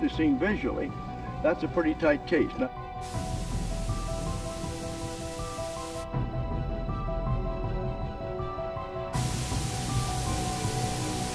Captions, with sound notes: that confirm identically what is seen visually, that's a pretty tight case. (dramatic music) (electric buzzing)